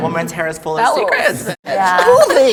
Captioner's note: laughs